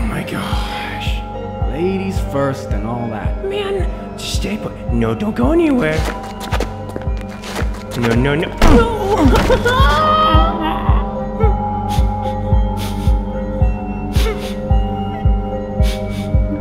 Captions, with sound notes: AWW MY GOSSSHHH. LADIES FIRST AND ALL THAT. MAN!... NO. STAY PUT. NO, DON'T GO ANYWHERE. NO NO NO--HEHEHAAA!! [DR. LAKE CRYING]